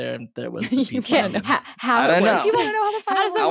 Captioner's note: they laugh